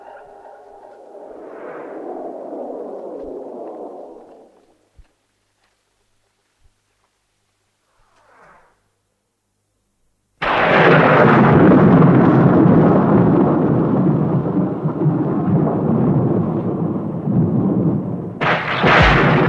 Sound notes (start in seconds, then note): 10.4 thunder and lightning crashes